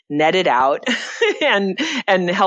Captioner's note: laughs